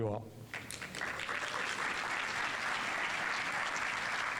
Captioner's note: audience applauding